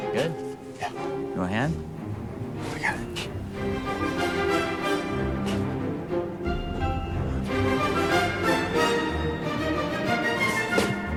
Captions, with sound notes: - You good? - Yeah. - You want a hand? - No, I got it. (sand pattering) (bright music continues)